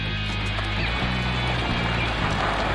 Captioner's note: glass shattering